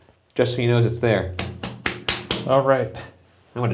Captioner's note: skin smacks